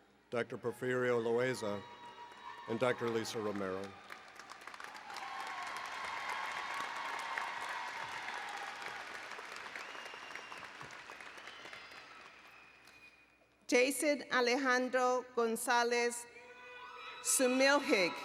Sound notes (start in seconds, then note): 4.5 applause and Cheering; 17.7 applause and Cheering